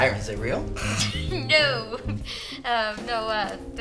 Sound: laughing

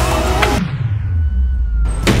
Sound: birds chirping; exaggerated whoosh from skateboard; skateboard slams on the ground

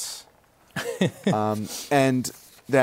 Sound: laughs

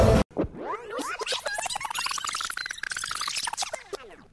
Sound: tape rewinding

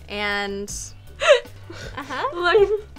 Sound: laughs

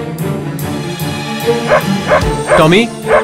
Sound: dog barks

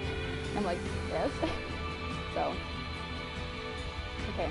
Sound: laughs

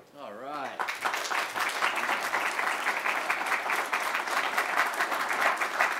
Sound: applause

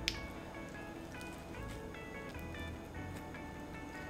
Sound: bites

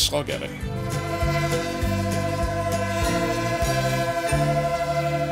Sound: train horn blares

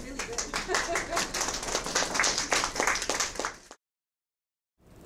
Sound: audience applauding

